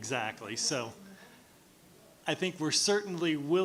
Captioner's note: speaking faintly